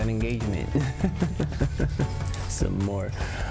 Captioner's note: laughs